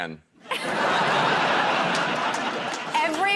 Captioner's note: laughter